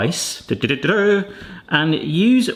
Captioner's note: vocalising